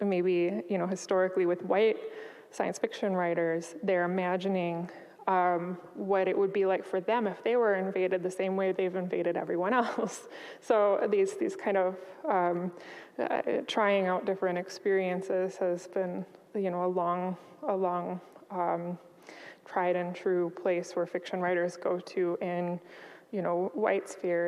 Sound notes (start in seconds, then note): 9.5 chuckles